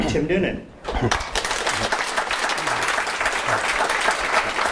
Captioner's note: audience applauding